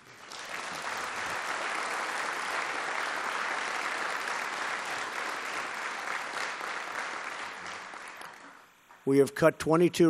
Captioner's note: applause